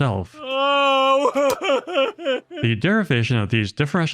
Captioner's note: crying sounds